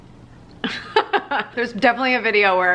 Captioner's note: laughing